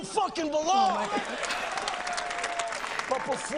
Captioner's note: people cheering